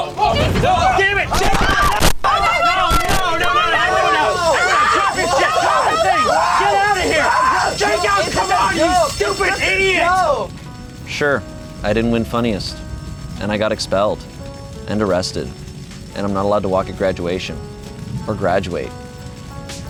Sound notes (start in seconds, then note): 0.3 everyone yelling and screaming; 4.2 fire alarm goes off while everyone screams